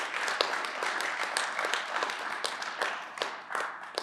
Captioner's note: clapping